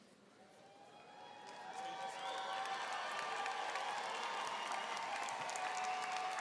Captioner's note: audience cheering and applauding